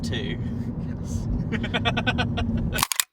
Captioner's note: laughs